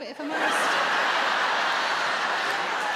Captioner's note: audience laughs